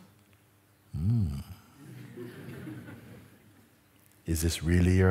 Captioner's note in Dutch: gelach